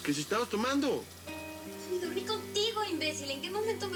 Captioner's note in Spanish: Sonido al correr el agua